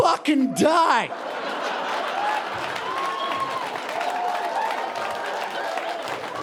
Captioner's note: audience cheering and applauding